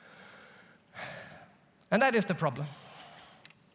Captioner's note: sighs